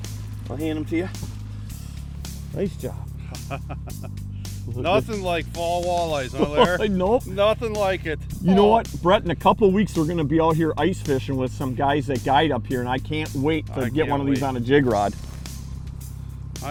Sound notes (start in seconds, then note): 6.2 laughs